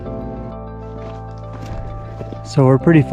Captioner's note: footsteps clomping